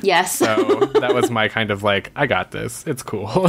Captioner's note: laughs